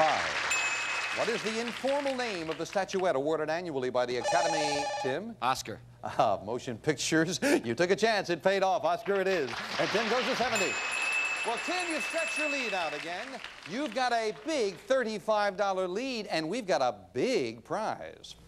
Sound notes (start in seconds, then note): 4.2 bell rings; 10.5 bell ringing